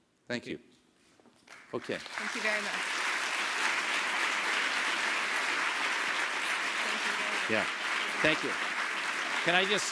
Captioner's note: applause